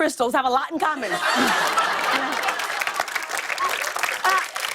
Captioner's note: laughter and applause